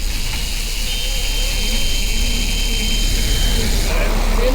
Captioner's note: second engine starting